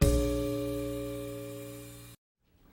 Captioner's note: none